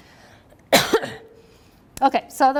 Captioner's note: coughs